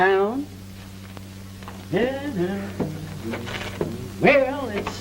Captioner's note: humming